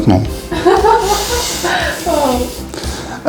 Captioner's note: laugh